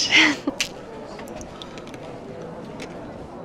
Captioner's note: giggles; cookie snaps